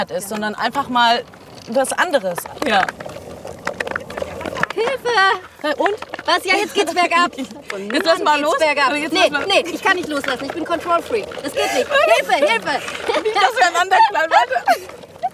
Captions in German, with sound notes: Sondern einfach mal was anderes. - Ja. Hilfe! Jetzt geht's bergab! Willst du mal loslassen? Nee, ich kann nicht loslassen, bin Kontrollfreak. Das geht nicht. Hilfe! (Lachen)